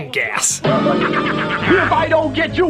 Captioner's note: cackles